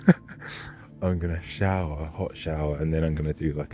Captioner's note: laughing